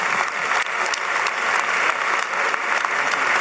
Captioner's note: applause